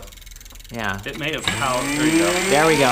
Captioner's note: motor whirring